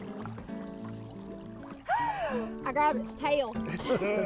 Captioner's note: all laughing